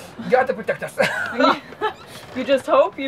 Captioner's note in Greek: Γέλια